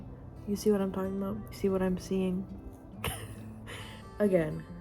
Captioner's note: laugh